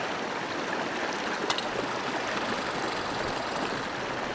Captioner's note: lid clanks squirrel chatters